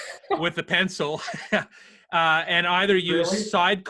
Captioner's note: laughing; laughs